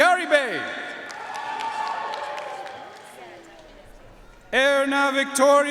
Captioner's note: audience cheering and applauding